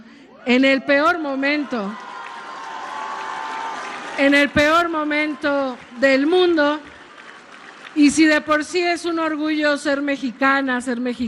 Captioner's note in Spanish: aplausos